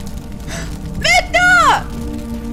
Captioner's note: gasps